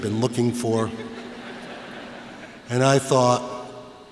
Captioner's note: laughter